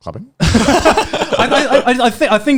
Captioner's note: laughing